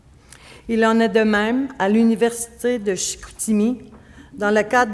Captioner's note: speaking French